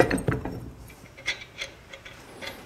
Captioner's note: metal screwing